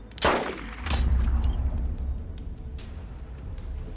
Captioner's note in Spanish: Disparo